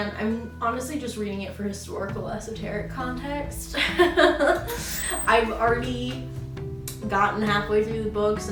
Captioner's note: laughs